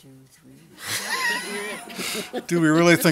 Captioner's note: audience laughter